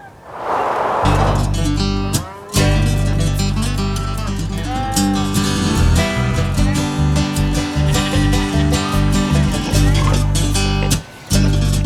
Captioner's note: nature sounds